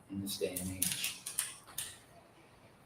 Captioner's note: rustling